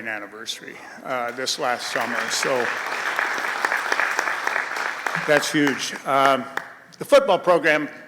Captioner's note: applause